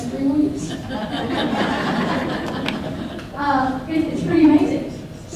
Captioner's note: audience laughs